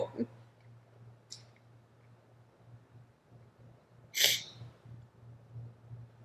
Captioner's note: sniffling